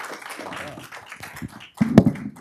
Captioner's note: applause